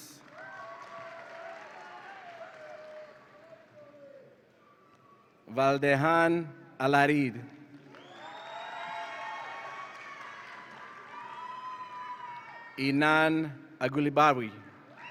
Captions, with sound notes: (audience applauds and cheers) Valdehan Alarid. (audience applauds and cheers) Enan Alghuraibawi.